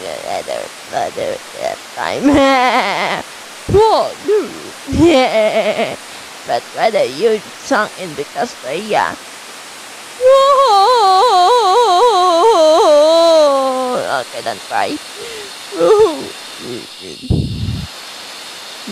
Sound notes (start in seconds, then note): 1.5 whispering something; 10.2 crying